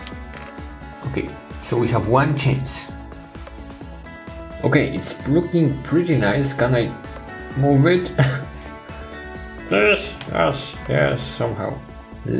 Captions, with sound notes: Okay, so we have one chance. Okay, it's looking pretty nice, gonna move it. (chuckles) Yes, yes, yes, somehow.